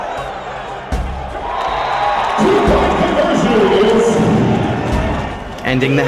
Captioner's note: cheering